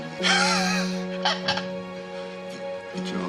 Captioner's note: laughter